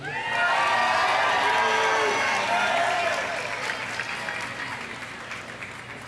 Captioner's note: audience cheering; audience applauding